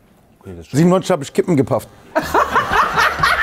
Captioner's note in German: Gelächter